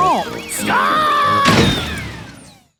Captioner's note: thuds